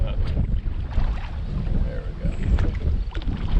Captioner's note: water lapping